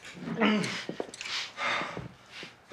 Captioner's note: Harvey panting